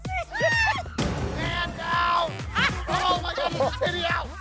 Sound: laughing continues

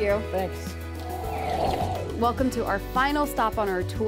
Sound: air whooshing

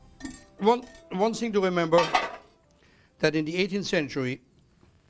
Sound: pot lid</b> <b>closing

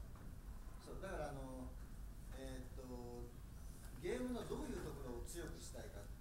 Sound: speaking in foreign language

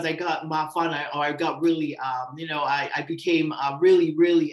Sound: tongan language

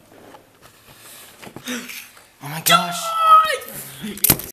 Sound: creepy carrot yelling

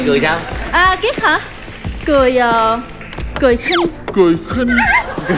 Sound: sneer

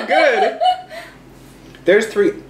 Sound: laughs loudly

